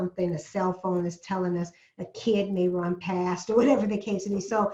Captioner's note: laugh